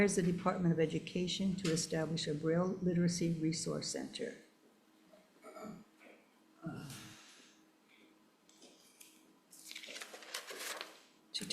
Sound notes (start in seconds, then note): 5.4 person clears throat; 9.5 paper rustling